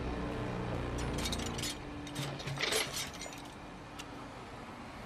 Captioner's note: tools rattling